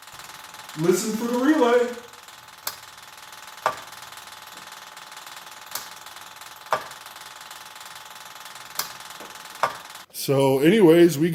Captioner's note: GP relay clicks ON-OFF